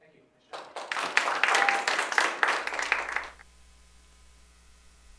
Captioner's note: applause